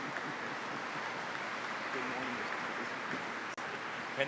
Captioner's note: applause